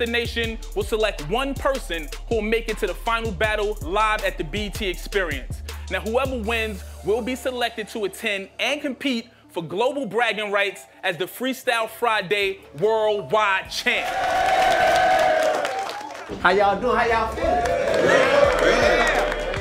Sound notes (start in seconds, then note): 13.9 crowd cheers